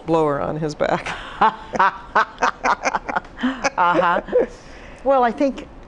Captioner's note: laughs